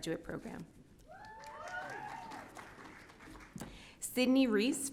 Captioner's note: audience cheering